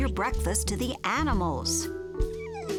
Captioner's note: babbling; laughing